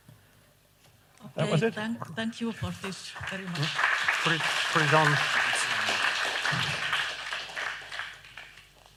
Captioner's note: applause